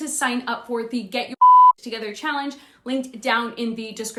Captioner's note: beep